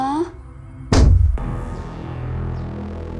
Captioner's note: banging; ominous music